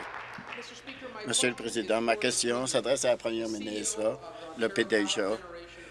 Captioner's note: applause